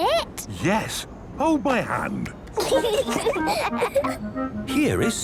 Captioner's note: children giggling